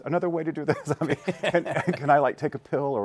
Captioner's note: laughs